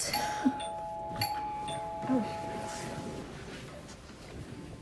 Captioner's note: doorbell ringing